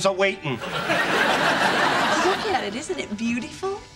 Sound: audience laughing

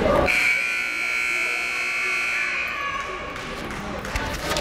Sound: timer buzzes

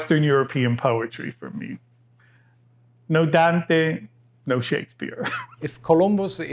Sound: laughs

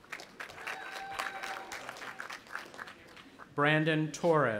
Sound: audience applauding

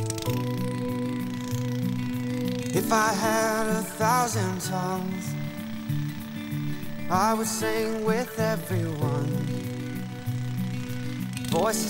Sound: rototiller engine

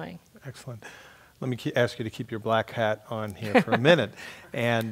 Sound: laugh

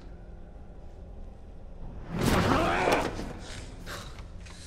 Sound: yells

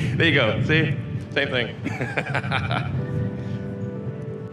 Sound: laughs

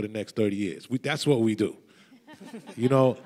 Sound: panelists laugh

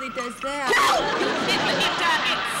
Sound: giggling; stammering

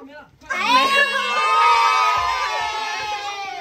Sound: children booing

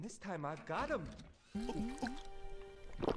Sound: swallows

